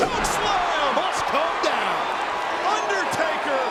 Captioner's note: audience cheers